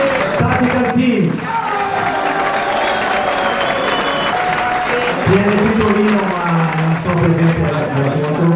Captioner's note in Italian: Applauso